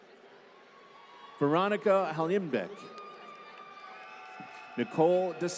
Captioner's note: applause